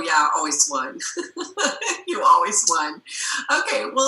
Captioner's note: laughing